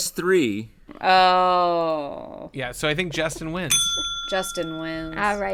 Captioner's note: bell dings